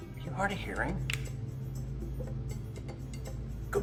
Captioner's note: man snapping